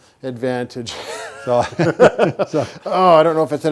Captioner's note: both chuckle